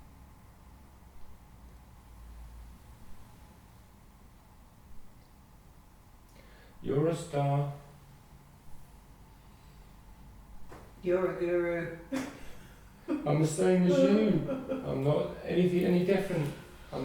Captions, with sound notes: You're a star. You're a guru. (laughing) I'm the same as you (laughing) I'm not any different.